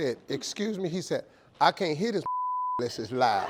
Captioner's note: beep